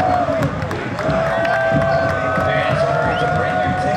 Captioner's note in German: Jubel